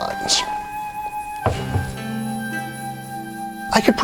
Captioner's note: commanding thud